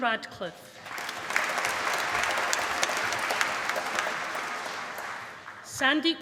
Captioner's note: applause